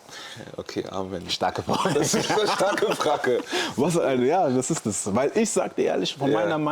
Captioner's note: gelächter